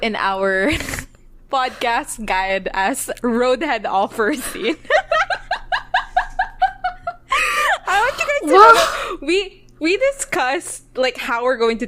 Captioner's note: laughs; both laughing